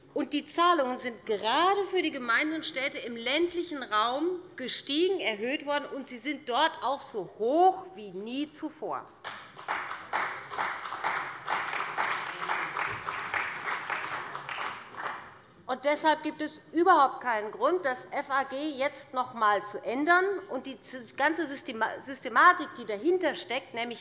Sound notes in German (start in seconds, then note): 9.2 Beifall bei dem BÜNDNIS 90/DIE GRÜNEN und der CDU